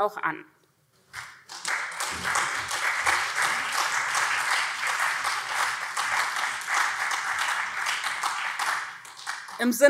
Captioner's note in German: Beifall SPD und CDU